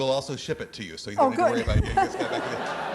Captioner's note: laughing